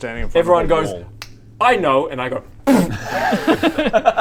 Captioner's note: snap; zero sympathy giggles